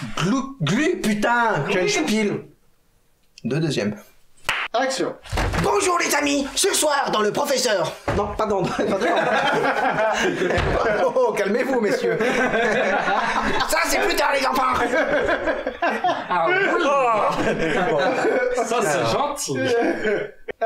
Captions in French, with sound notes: -Glou. Glü, putain, ckenspiel... 2. Deuxième. *Claquement de main.* -Action. *Bruit de la porte.* -Bonjour, les amis. Ce soir, dans le professeur. Non, pardon dans le... *Rires.* Oh oh, calmez vous, messieurs. *Rires.* Ca, c'est plus tard les enfants. *Rires.* -Ah, oui ! -Aah ! *Rires.* Ca c'est gentil. *Rires.*